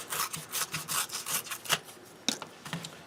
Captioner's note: tearing sounds